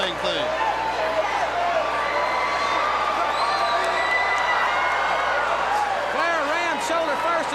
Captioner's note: crowd cheering